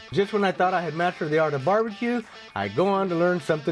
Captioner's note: none